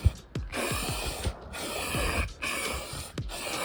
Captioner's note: aerosol sounds